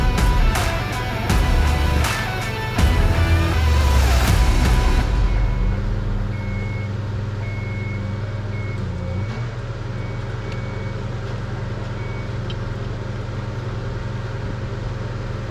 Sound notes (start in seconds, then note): 4.4 vehicle beeping; 5.3 vehicle humming; 12.6 vehicle humming